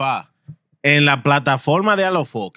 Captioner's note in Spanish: Hablando en idioma extranjero